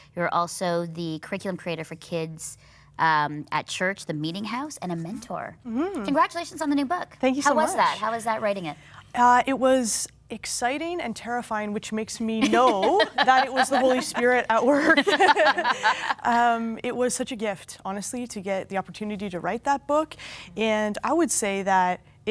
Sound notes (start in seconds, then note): 14.8 laughing